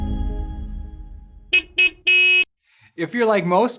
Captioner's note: car honking